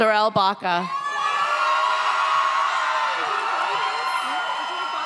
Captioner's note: audience cheers